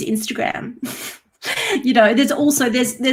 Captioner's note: chuckles